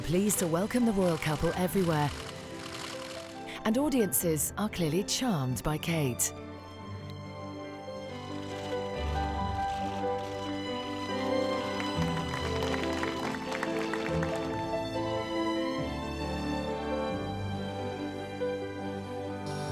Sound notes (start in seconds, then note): 8.6 cameras clicking; 11.5 dramatic music; 13.2 crowd clapping; 16.7 dramatic music